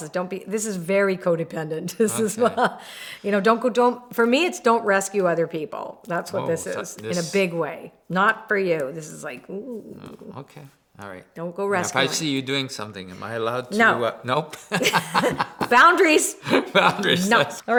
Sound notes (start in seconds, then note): 14.6 laughs